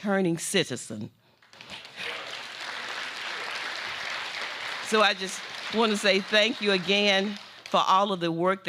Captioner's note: applause